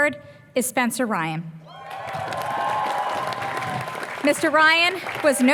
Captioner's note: applause